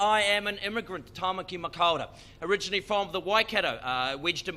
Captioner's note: speaking in foreign language